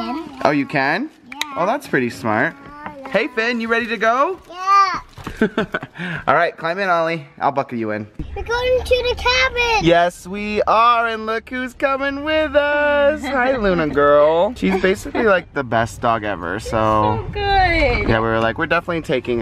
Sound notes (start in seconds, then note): 5.3 laughter